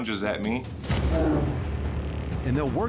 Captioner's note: bear growls